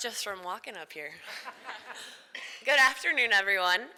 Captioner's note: crowd laughs